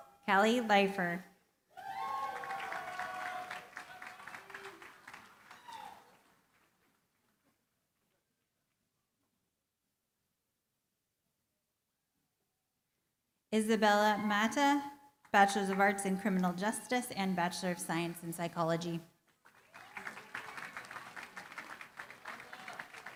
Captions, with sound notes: Kali Leifer. [APPLAUSE] Isabella Mata, Bachelor of Arts in criminal justice and Bachelor of Science in psychology. [APPLAUSE]